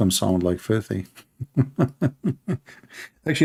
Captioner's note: Ketawa